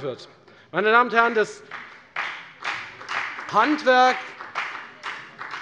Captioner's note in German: Beifall bei der FDP